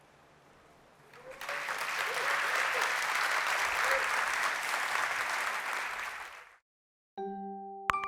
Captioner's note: applause